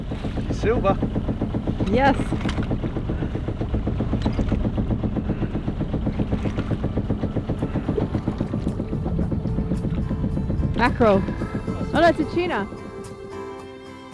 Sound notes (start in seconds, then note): 3.5 boat motor knocking